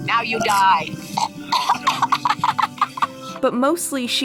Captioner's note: laughter